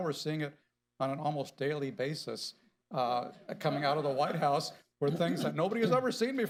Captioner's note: laughter